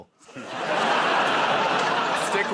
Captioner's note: laughter